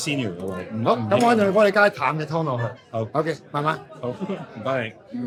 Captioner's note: speaking in foreign language; owner speaking in foreign language; speaking in foreign language